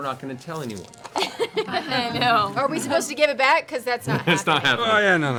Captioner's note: laughs